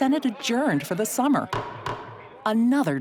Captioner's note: gavel raps